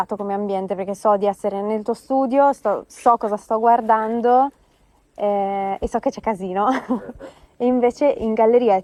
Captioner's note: laughs